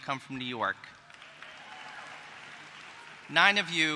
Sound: applause

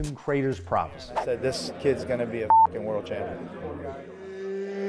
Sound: beep

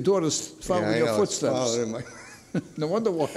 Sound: laughs

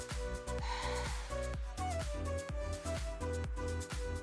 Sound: exhales

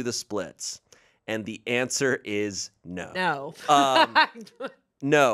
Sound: laughs

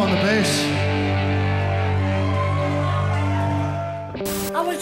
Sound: cheers

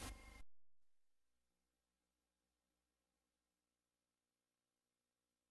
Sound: silence

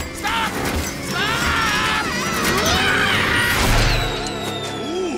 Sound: screaming

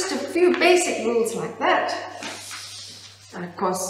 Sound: paper rustling

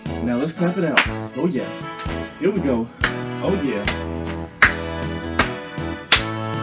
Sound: clapping

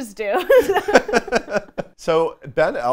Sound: laughs loudly

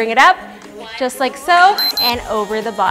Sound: beeps

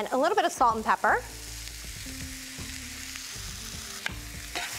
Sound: sizzling

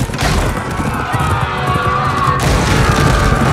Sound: yells

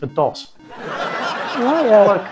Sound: audience laughing

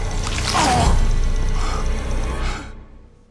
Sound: crunch

